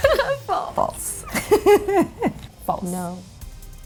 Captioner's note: laughs